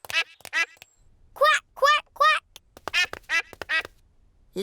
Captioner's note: ducklings quack; ducklings quack